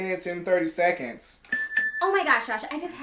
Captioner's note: beeping sound